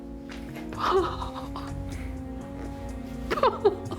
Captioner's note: crying